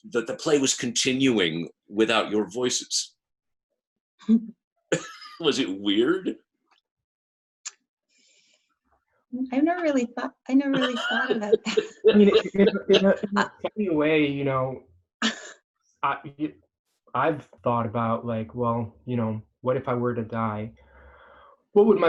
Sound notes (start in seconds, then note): 5.0 laughs; 10.7 laughing